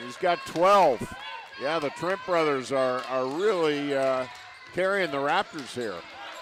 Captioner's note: applause